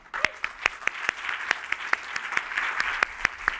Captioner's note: applause